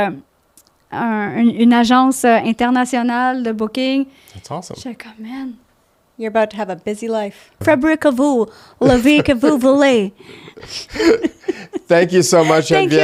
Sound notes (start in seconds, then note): 0.0 in french; 7.9 in french